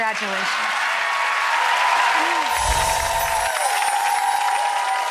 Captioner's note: audience cheering